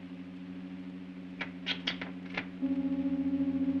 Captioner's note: soft hum; switches click; loud hum